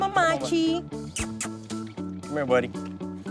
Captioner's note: makes kissy noises